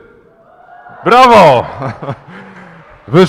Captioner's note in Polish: okrzyki, oklaski